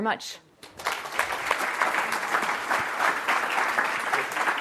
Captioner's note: audience applause